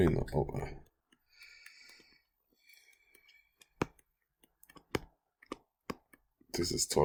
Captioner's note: clicking Sounds